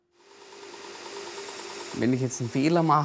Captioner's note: machine sound